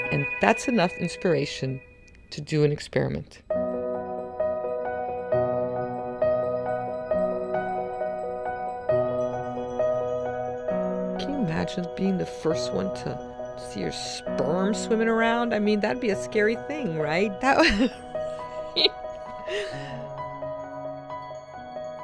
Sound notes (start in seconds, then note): 17.5 laughing